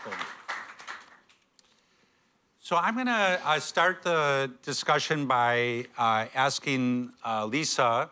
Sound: applause

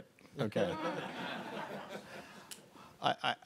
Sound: audience laughing

